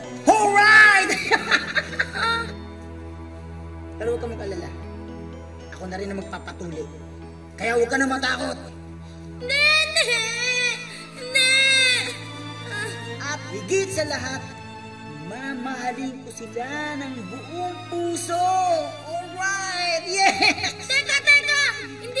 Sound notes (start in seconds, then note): 1.0 laughs; 9.6 cries